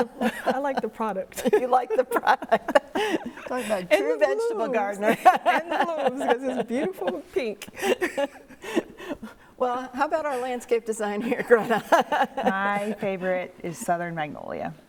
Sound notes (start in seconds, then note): 4.8 laugh; 4.8 laughter drowns out